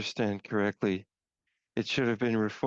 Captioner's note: speaking French